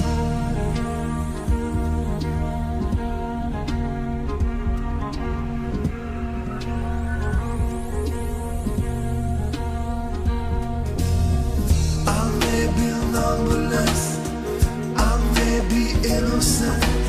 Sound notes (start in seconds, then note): none